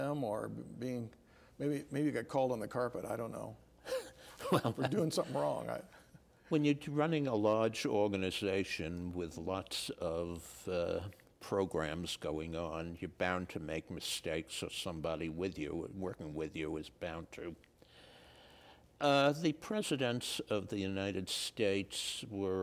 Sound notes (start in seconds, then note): 3.9 laughing